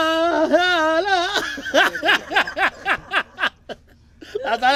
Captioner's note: laughing